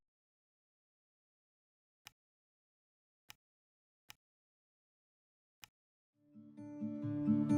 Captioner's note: mouse clicks; mellow music